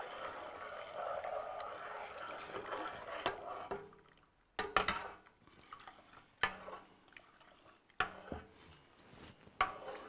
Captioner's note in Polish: odgłos mieszania